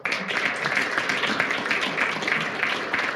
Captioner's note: applause